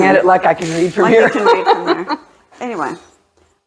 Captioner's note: laughing